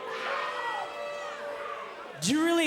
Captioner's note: cheers & boos